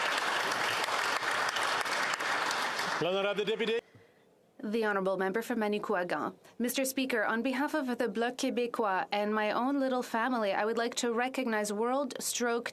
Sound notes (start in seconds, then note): 2.2 applause